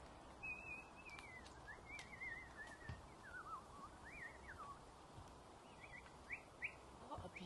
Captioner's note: whistling sound